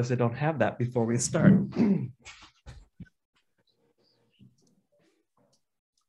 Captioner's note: clears his voice